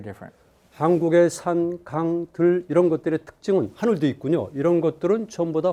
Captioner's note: speaking in Korean